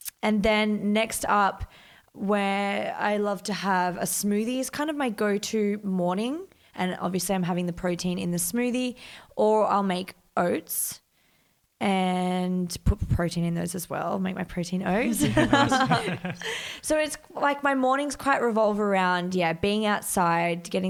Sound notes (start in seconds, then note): 15.2 laughs